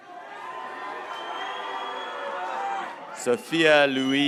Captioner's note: graduates cheering